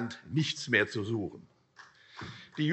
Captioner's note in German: Vereinzelter Beifall CDU